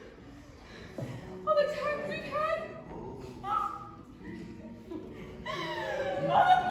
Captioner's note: sobs